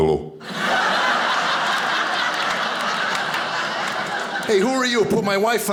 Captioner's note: audience laughing